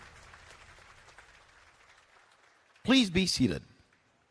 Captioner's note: applause